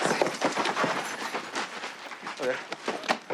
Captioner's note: speaking in Spanish